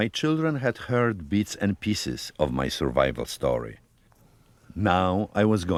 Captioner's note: voice-over